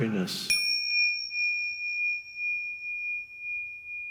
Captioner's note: bell ringing